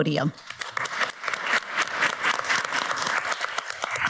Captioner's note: audience applauds